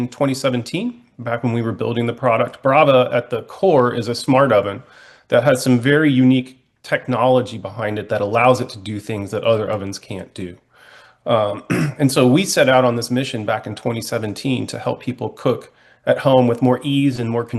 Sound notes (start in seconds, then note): 11.4 clears throat